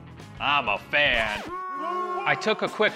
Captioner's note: booing